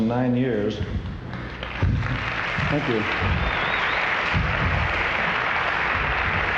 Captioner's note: audience applauding